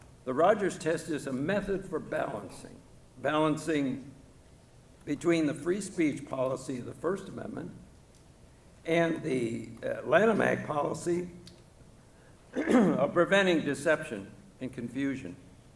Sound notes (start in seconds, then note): 12.5 clears throat